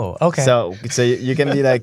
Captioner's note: laughter